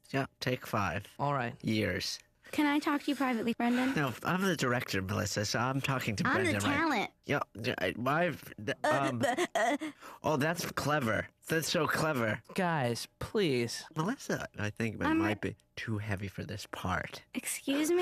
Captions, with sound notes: UM... TAKE FIVE... ALL RIGHT. YEARS. CAN I TALK TO YOU PRIVATELY, BRENDON? NOPE, I'M THE DIRECTOR, MELISSA, SO I'M━━ I'M THE TALENT. (stammers) (imitates Jason's stammering) OH, THAT'S CLEVER. THAT'S SO CLEVER. GUYS, PLEASE. MELISSA, I THINK, MIGHT BE TOO HEAVY FOR THIS PART.